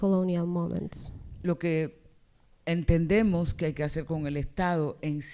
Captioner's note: speaking spanish